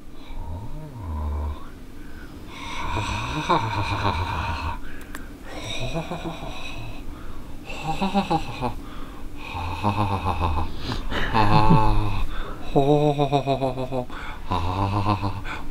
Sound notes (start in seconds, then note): 3.8 creepy laugh-breathing